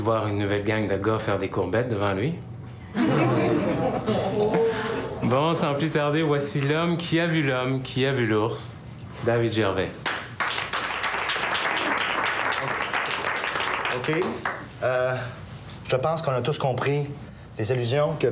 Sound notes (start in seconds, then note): 10.0 Applaudissements